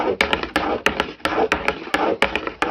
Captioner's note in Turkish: oklava sesi